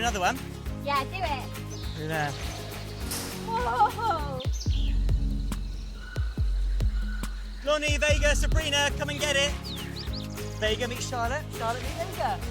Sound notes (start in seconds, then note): 4.6 birds chirping; 4.6 pensive music